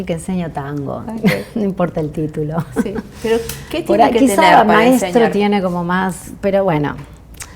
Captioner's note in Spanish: risas